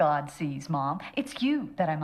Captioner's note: none